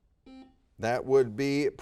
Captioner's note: buzzer beeping